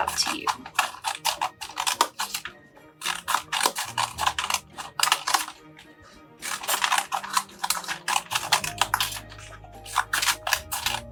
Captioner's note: sound of cutting paper